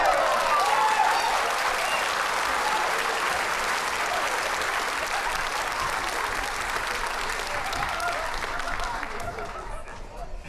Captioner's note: applause